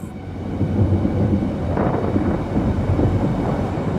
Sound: thunder rumbling

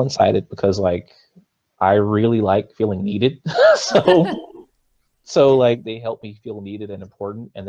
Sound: both laughs

